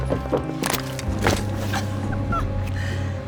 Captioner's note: door thuds; bone cracks; whimpers